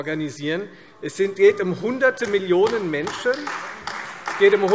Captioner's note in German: Beifall Freie Demokraten und AfD